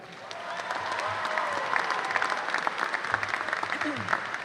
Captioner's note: applause